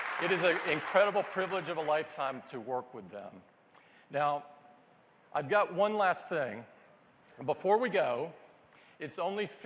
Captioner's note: applause